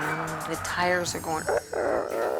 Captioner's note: groans